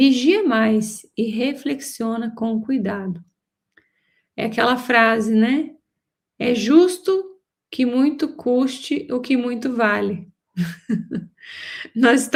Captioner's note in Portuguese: risadas